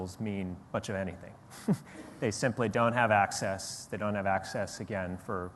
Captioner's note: laughs